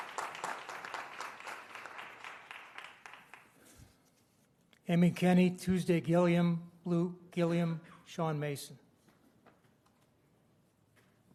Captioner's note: applause